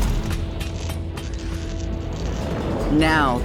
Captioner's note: clanking